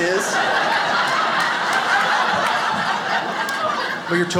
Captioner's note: audience laughs